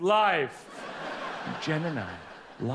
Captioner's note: audience laughs